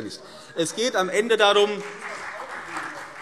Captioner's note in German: Beifall CDU und BÜNDNIS 90/DIE GRÜNEN